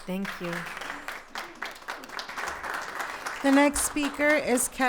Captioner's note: attendees applauding